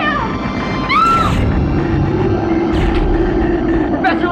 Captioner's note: screams